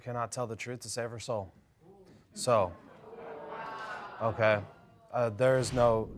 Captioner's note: audience murmuring